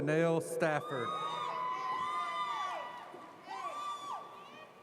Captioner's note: audience cheers